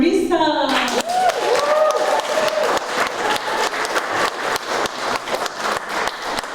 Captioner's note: applause